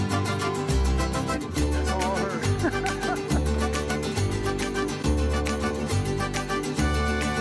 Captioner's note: laughs